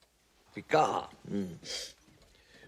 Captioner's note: sniffs